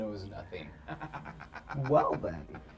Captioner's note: David laughs